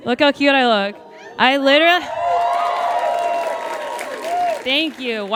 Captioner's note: audience cheers and applauds